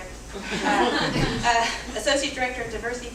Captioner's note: audience laughing